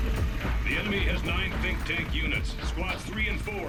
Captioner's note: over comms